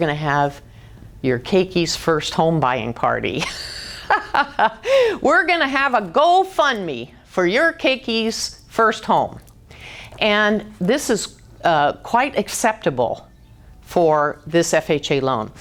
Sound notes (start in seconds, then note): 3.3 laughing